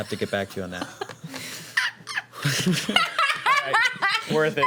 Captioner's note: laughing